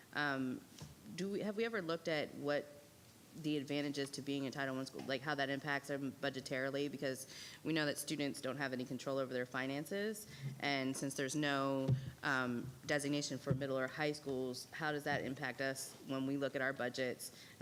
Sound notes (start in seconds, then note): none